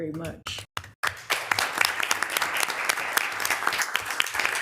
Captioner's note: audience applauding